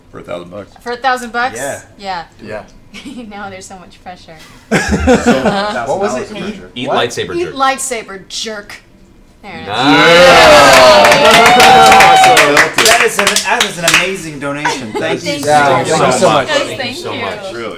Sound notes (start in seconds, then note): 4.7 all laugh